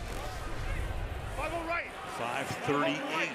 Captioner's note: swoosh